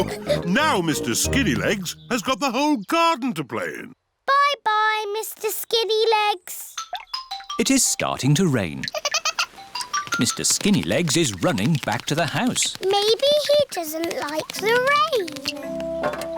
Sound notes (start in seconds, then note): 8.8 giggles